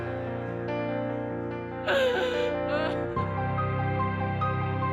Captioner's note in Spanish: llanto